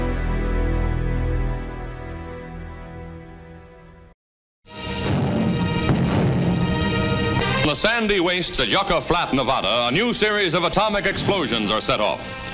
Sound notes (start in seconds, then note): 4.7 suspenseful dramatic music; 4.8 bombs blasting